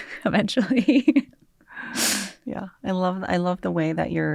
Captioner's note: laughter